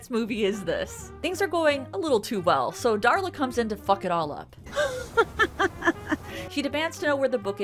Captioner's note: she cackles